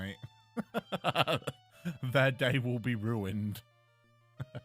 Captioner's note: chuckle